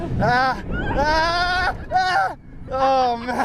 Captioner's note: riders screaming